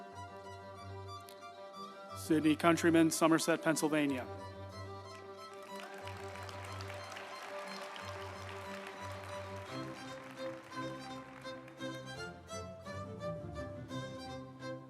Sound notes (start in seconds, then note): 5.0 group applauding; 5.1 uplifting music